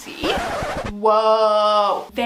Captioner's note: record scratching